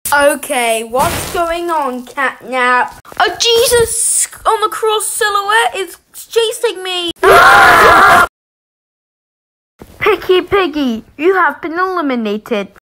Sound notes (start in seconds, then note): 7.2 screams